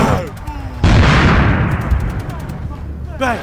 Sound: explosions

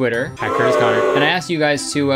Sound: booing

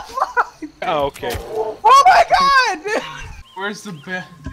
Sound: death sounds

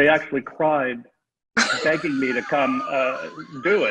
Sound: everyone laughing

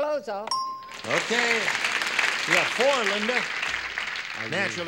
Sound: ding

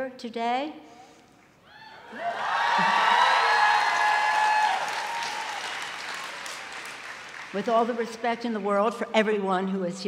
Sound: cheers and applause

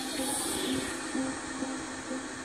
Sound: static cracking

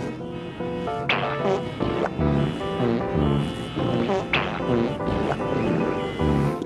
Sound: traffic/farting/pooping noises

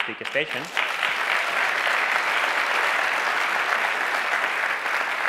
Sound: audience applauds

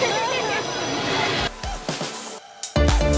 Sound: laughs

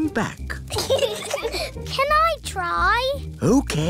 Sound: peppa and george giggle

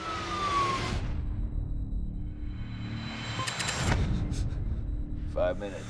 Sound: sirens

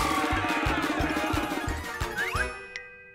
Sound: all shouting angrily

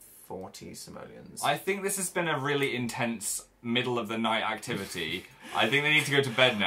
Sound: laughs

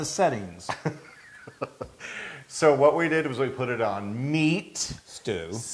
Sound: laugh

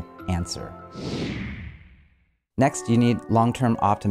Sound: whoosh interlude

